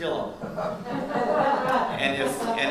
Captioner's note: audience laughs